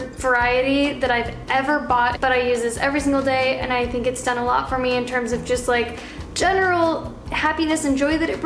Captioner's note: none